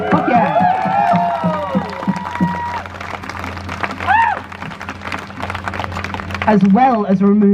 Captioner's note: crowd cheers